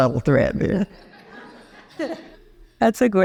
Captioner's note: audience laughing